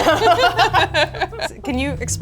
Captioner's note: both laugh